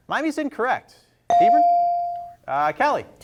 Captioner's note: bell rings